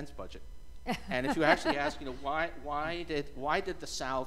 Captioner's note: laughter